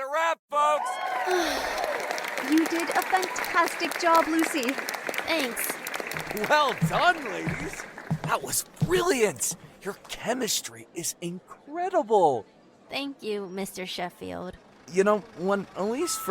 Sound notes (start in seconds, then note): 1.2 relieved sigh; 2.5 cheering